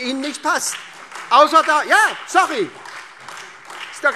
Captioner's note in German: Beifall SPD, AfD und Freie Demokraten